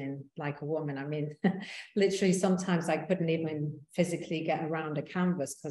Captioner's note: chuckling